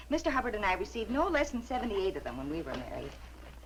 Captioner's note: none